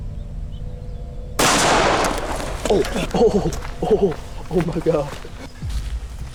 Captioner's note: laughs